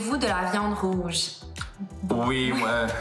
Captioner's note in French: rires